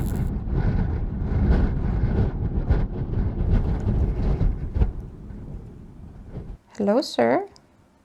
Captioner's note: electricity crackles; gusty wind noises